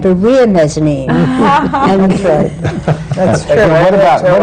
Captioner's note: laughter